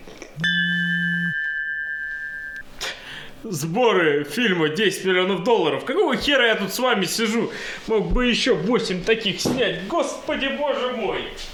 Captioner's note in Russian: сигнал СМС-ки